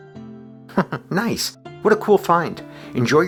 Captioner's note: chuckles